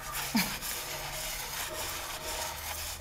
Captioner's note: groan